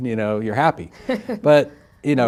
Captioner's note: laughing